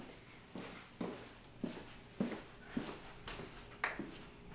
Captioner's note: footsteps thumping